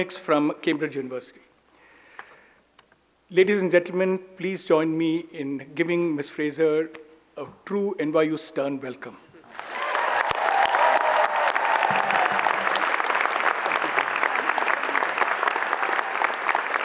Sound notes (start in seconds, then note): 9.4 audience applauds; 9.4 audience cheers